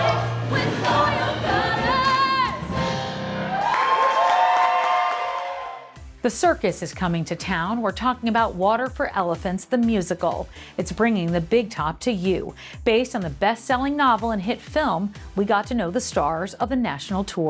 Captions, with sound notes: With all your colors [cheering] The circus is coming to town. We're talking about "Water for Elephants," the musical. It's bringing the big top to you. Based on the best-selling novel and hit film, we got to know the stars of the national tour.